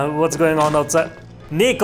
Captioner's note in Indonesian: Jedug!